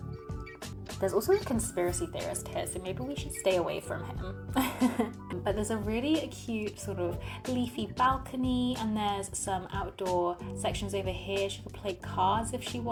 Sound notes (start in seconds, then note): 4.5 laughs